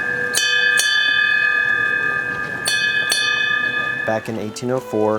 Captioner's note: bell ringing